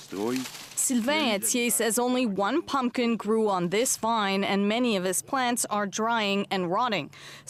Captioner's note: speaking French